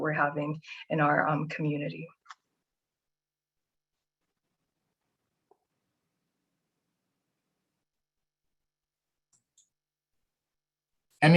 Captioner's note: silence